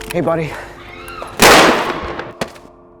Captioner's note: gunshot